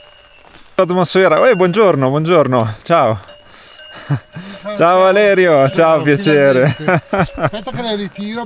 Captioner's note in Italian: risate